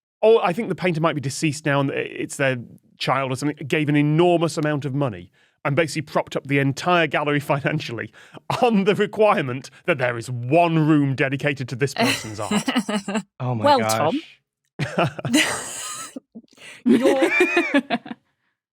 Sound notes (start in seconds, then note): 14.7 chuckles; 15.3 wheezes; 16.6 laugh